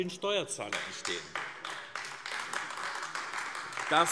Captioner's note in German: Beifall AfD